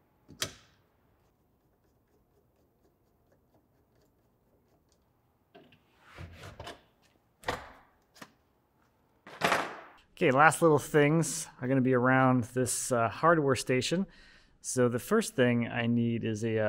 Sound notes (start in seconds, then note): 0.3 metal clicking; 6.1 door clicking; 6.1 screwdriver thudding